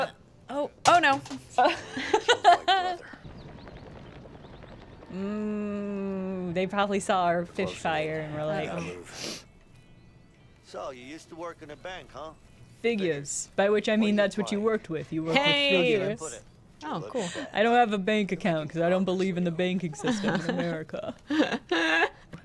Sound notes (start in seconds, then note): 0.9 clattering noise; 1.6 laughter